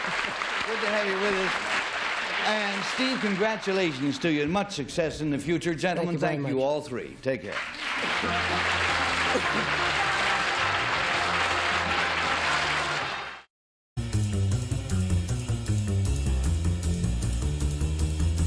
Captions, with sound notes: - Good to have you with us. And, Steve, congratulations to you. Much success in the future. Gentlemen, Thank you all. Take care. [applause] [theme music]